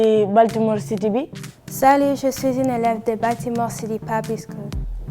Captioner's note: speaks in foreign language